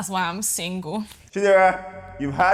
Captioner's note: laughs